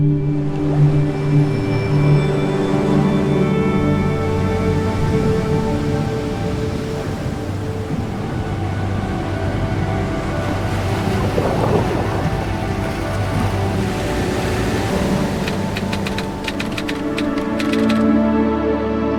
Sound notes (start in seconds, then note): 0.5 waves crashing; 11.2 water burbling; 15.8 typewriter clattering